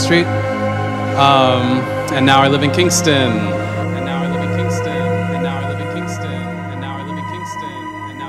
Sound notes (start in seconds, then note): 3.6 echoing